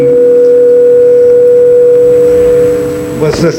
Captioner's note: microphone feedback humming